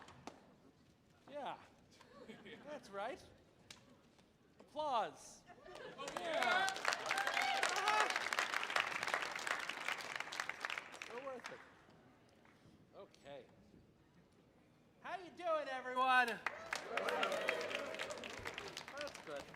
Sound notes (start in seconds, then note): 5.9 audience applauding; 6.3 audience laughing; 16.4 audience applauding